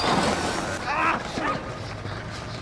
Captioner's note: motorcycle slides; robber sighs